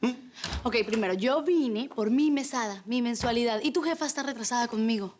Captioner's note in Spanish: Ruido en la puerta